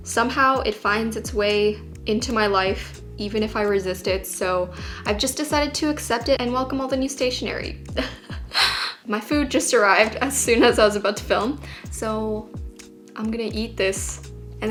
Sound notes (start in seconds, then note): 8.0 laughs